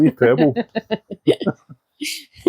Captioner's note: laughter